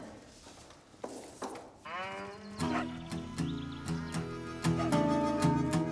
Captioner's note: cow moos